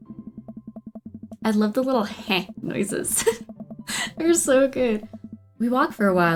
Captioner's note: laughs